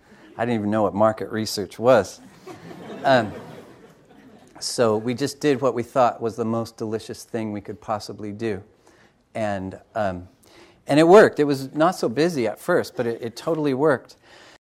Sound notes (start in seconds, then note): 2.1 audience laughs